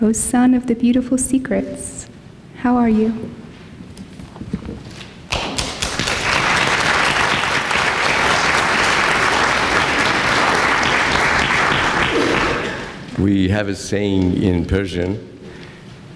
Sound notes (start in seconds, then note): 5.3 clapping